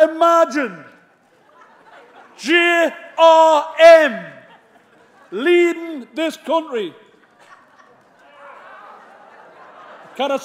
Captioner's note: laughter